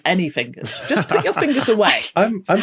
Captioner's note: laughs